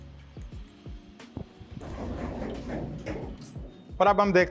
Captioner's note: lift opening